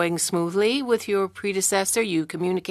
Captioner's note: speaking French